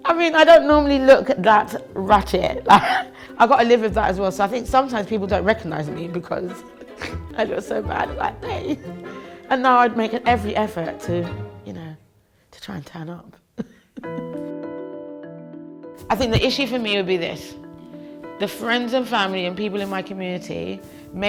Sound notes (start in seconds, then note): 2.6 laughs; 6.7 laughs; 13.6 laughs; 13.9 soft music